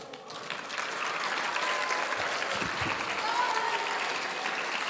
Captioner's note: audience applauding